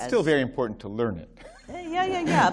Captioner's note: laughter